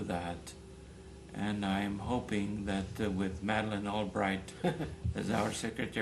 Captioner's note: laughter